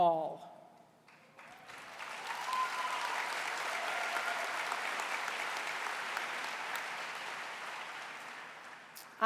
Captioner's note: applause